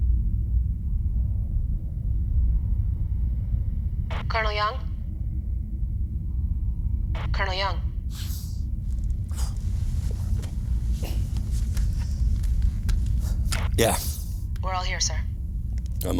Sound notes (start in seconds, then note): 4.2 radio